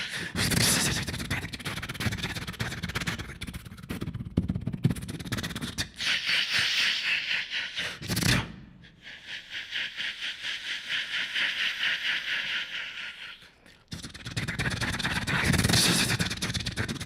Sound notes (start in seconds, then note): 9.0 beatboxing